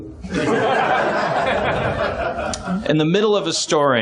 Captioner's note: laughs